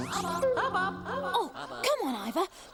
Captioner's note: echoing